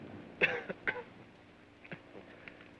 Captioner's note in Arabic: سعال